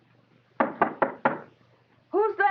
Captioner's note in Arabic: سام يطرق